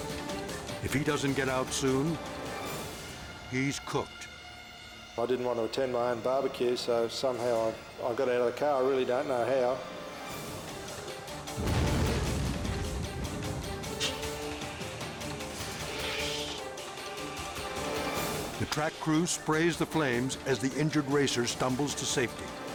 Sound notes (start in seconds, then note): 11.4 fire roaring; 14.4 tense suspenseful music